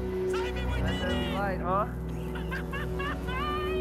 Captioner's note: laughter